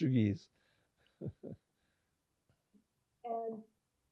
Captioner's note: laughing